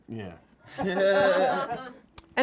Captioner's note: group laughs